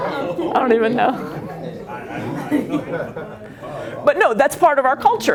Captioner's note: laughter